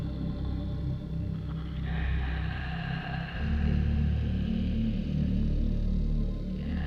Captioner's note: creepy breathing